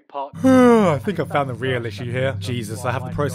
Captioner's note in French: Bâillement